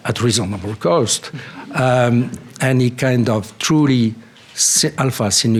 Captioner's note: laughter